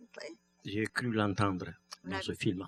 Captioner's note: speaking french